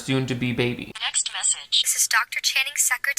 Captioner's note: phone audio